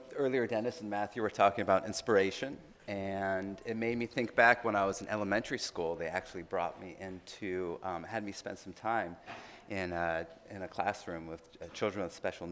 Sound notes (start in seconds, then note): none